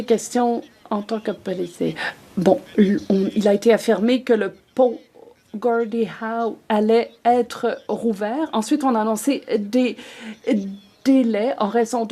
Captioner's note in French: voix de l'interprète